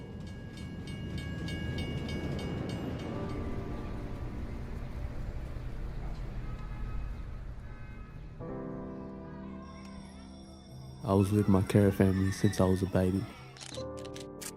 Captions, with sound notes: (slow music) (car honking) (bell ringing) - [Bold Voice] I was with my care family since I was a baby.